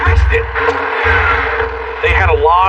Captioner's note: revs engine